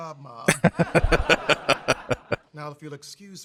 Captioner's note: laughing